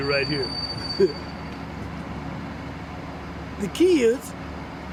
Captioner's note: chuckles